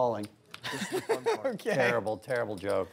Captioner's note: laughter